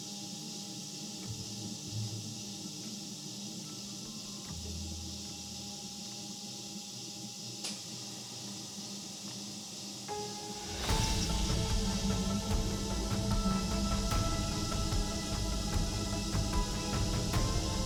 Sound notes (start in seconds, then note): 4.5 crickets chirping; 10.5 dramatic music